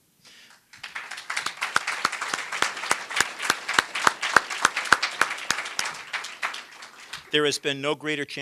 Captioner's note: applause